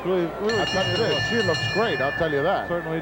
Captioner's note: bell rings